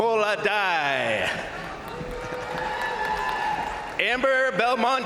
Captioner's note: crowd cheering; crowd applauding